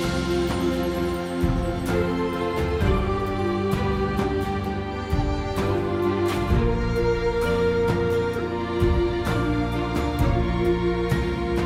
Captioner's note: applause